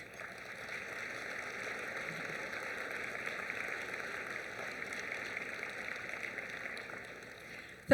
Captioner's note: applause